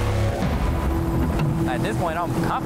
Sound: helicopter rotors thumping; water splashing

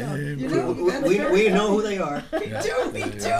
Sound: voiceover

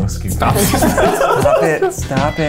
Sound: laughs

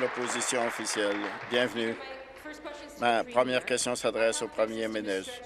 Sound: applause

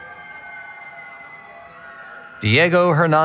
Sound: cheering

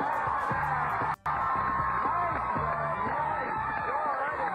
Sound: audience cheering

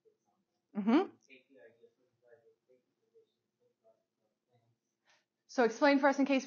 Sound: student continues speaking faintly

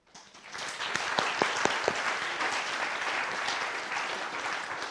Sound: audience applauding

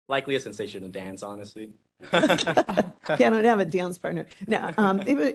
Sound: laughing

